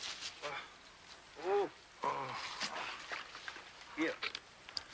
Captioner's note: Dan groaning